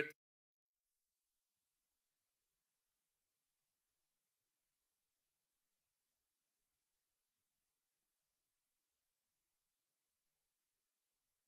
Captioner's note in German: Klicken